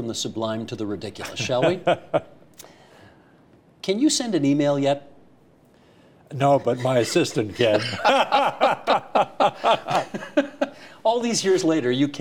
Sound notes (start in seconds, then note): 6.6 laughs